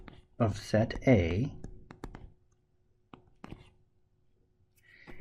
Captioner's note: tapping Sounds